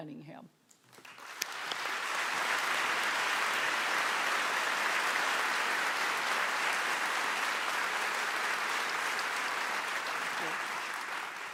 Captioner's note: applause